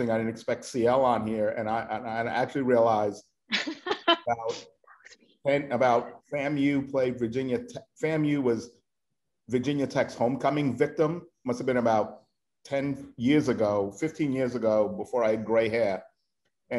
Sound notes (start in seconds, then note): 3.5 laughing